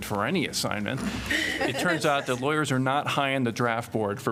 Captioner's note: laughter